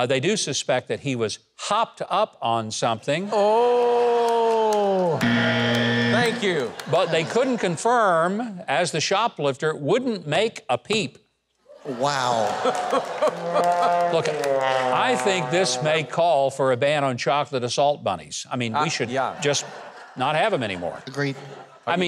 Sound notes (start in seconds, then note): 5.2 buzzer rings; 12.7 chuckles; 14.7 sad trombone music